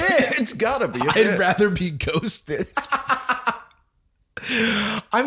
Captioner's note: laughing